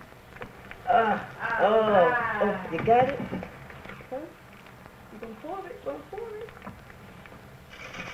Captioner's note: groans